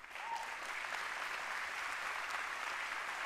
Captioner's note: applause